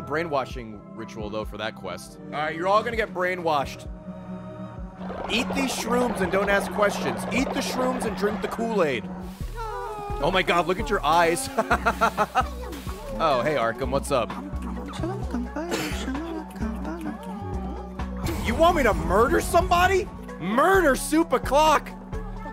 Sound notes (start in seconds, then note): 11.3 laughs